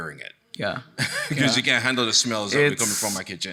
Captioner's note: chuckles